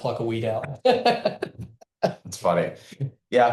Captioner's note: laughs